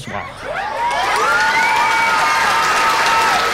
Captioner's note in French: acclamations